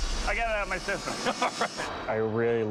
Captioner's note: laughing